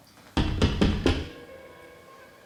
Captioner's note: loud banging at door